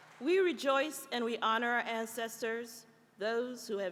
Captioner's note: applause